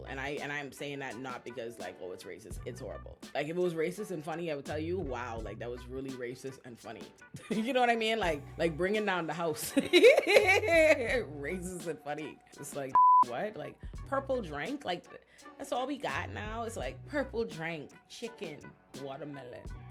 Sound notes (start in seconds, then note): 9.6 laughs